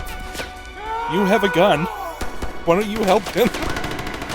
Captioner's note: wheeze